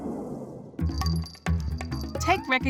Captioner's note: bell jingling